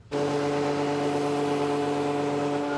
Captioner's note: roaring engine noises